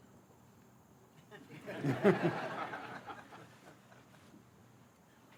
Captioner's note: laughter